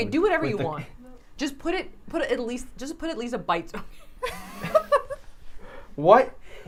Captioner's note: laughs